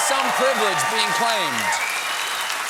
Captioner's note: applause